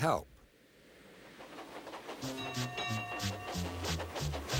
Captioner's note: Toby dings bell